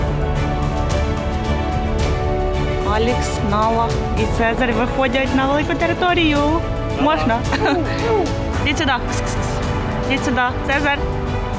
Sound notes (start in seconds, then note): 3.0 speaking in foreign language